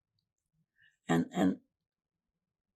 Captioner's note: pauses 4 seconds